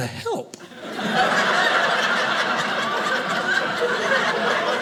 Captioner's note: audience laughing